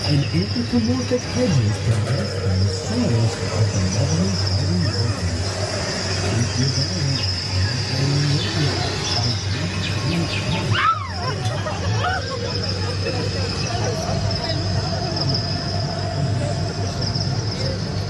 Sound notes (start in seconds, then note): 2.3 birds chirping; 5.3 birds chirping; 10.6 riders screaming; 10.6 riders laughing; 14.1 rider speaking Spanish; 17.8 riders chatting